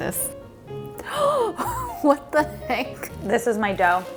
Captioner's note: gasping